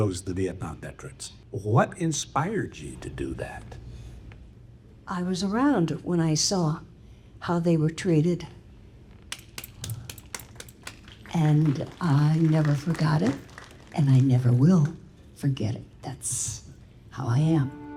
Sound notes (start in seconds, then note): 9.3 audience applauding